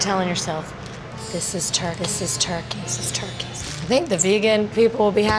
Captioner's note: echoing